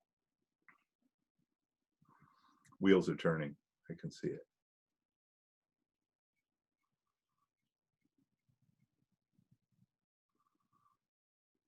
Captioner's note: silence